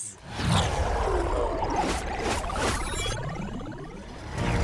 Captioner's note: electric beeping